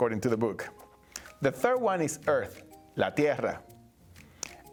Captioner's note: speaking Spanish